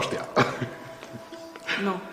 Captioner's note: laughs